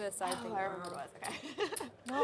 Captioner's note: laughs